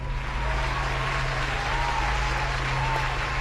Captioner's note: crowd applauding